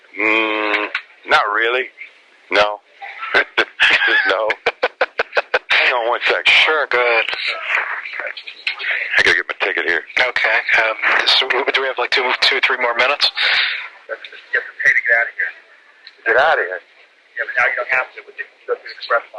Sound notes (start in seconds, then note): 3.0 laughs